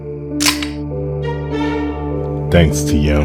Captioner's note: door opens